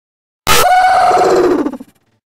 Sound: official oof sound effect new edition version 2

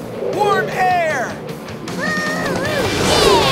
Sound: mooing

